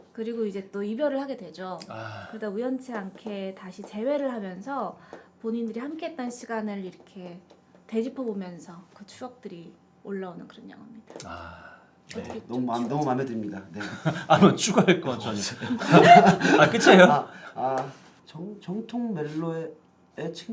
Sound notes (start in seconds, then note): 15.9 laughing